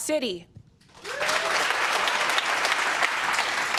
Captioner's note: cheers and applause